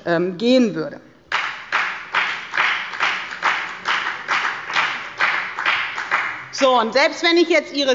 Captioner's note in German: Beifall bei der FDP